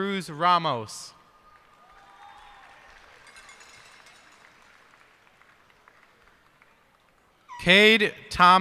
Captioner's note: cheers and applause